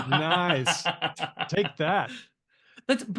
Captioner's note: laughs